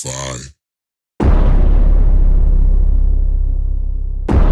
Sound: text pounding

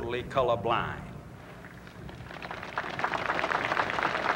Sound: applause

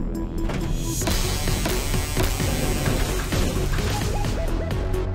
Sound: doors whir; electricity buzzing

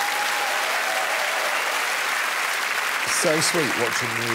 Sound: cheers and applause

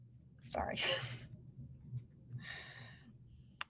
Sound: laughs

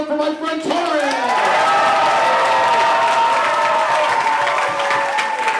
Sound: campers cheering

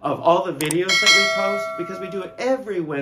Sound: bell dings

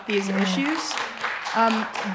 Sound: people clapping

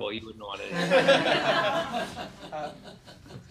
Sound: laughter

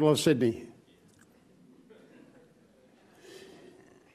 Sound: laughs

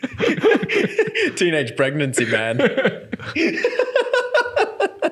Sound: laughing

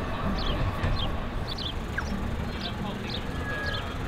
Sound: tram rolls; birds chirp

